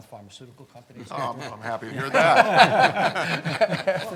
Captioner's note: laughs